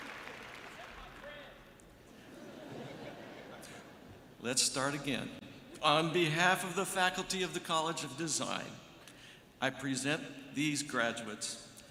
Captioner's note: cheering and applause